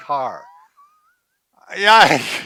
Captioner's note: wheezes and laughs